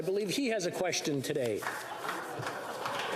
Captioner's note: applause